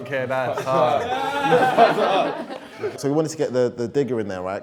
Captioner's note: laughter